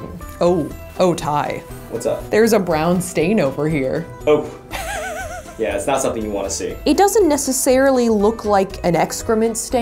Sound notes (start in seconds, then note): 4.7 laughs